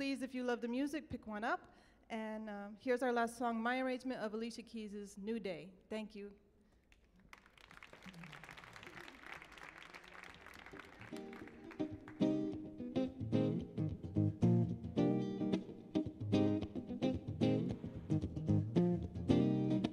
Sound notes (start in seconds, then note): 6.9 audience applauding; 11.4 mellow music